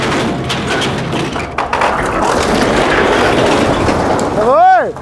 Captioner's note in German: Baulärm